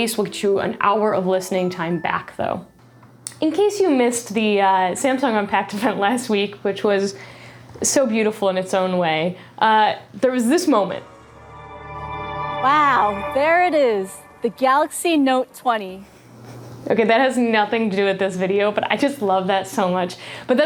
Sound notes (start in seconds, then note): 10.8 dramatic sound